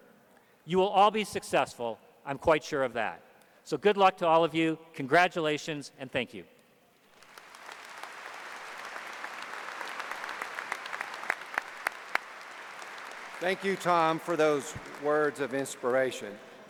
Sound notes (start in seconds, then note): 9.3 applause